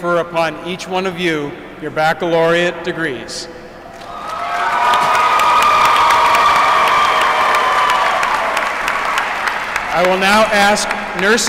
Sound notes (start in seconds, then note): 2.3 applause